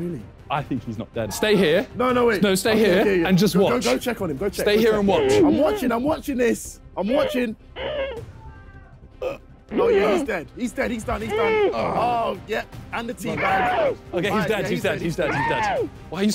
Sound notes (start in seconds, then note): 7.9 grunting